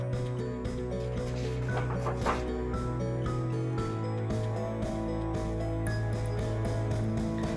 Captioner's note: uplifting instrumental music; pages shuffles